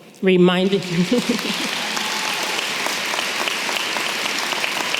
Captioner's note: audience clapping